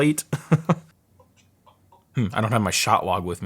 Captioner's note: laughing